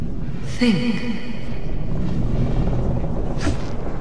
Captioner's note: motherly Voice